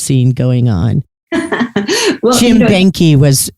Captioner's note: laughs